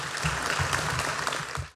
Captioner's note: applause